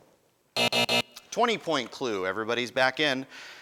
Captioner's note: buzzing